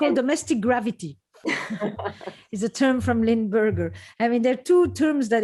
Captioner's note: laughter